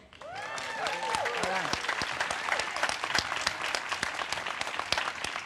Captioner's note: audience cheers and claps